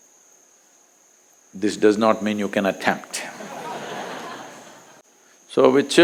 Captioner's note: few laugh